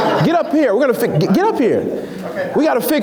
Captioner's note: laughs